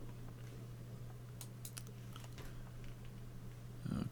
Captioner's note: computer mouse clicking